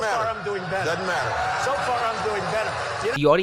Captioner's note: audience cheers